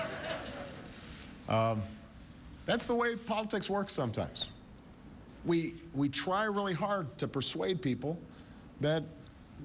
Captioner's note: laughter